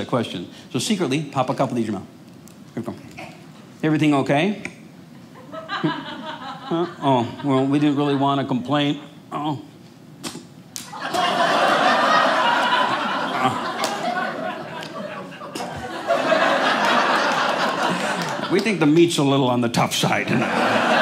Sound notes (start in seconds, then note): 10.9 audience laughing